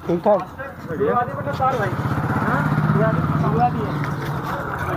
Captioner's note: bike noise